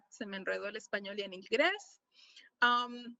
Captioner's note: speaking spanish